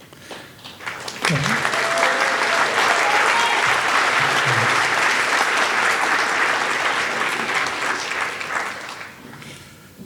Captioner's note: audience clapping